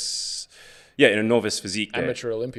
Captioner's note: speaks faintly